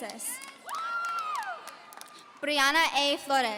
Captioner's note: audience cheering